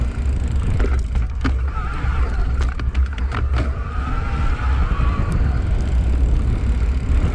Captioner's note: clunking